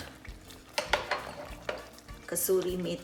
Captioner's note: dishes clinking